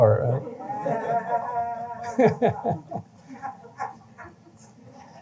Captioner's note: laughter